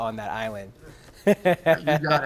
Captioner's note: laughter